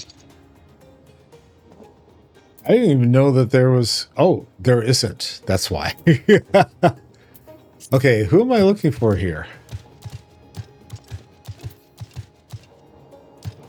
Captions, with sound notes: I didn't even know that there was, oh, there isn't, that's why. (laughs) Okay, who am I looking for here? (soft music)